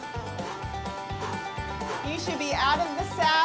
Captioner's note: panting